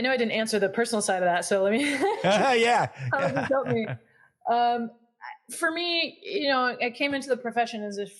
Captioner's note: laugh